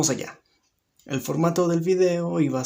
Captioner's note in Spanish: Silencio